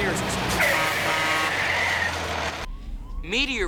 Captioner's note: tires screech